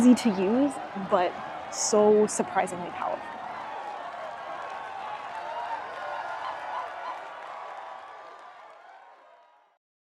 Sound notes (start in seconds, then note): 3.3 cheers and applause; 6.3 audience cheering